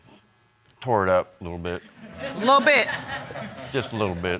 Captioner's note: audience laughing